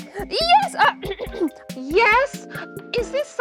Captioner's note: blueberry coughing